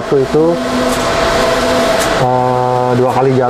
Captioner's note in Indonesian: suara mesin printer